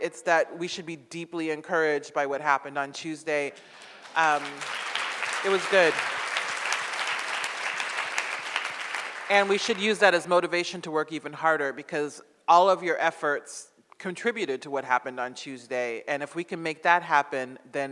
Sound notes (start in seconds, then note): 3.6 audience applauds